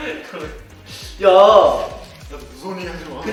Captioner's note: hahahahahahahahahahahaha